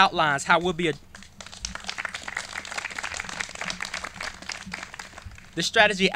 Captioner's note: clapping